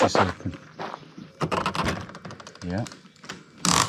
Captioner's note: door handle creaks